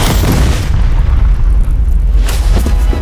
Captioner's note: explosion roars; thunder claps; dramatic orchestral music